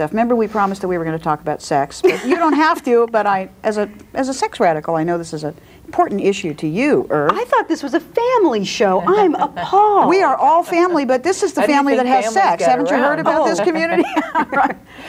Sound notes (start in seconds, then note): 12.0 overlapping chattering; 12.6 laughs